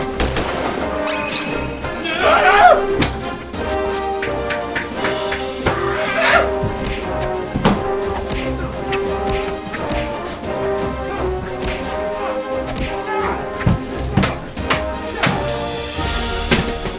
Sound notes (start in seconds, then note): 0.1 gunshots firing; 1.1 light blaring